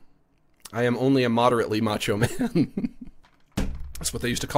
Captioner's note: laughs